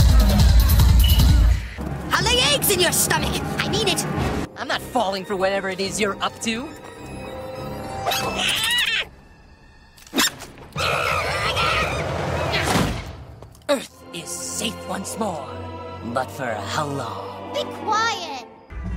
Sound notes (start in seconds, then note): 8.0 squeals; 10.8 monkey noises